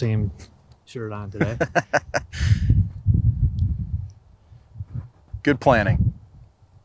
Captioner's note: laughs